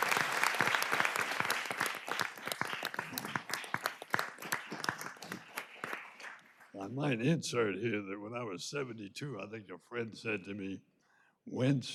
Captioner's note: applause